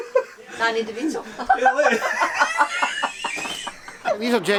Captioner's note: Janice laughs